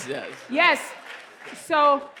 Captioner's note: applause